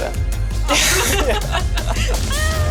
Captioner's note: laughing